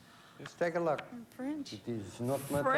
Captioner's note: french accent